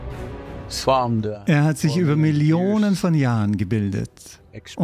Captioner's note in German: lacht